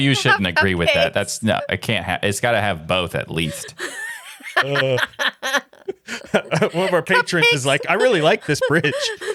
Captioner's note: laughing